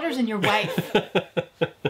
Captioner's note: laughs